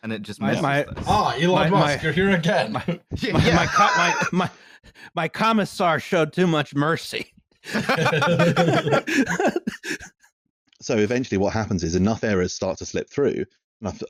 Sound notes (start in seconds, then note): 3.1 laughter